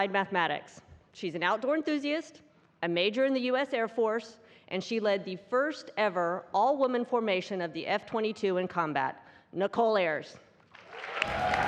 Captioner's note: cheers and applause